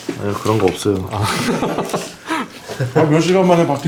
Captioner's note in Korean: 웃음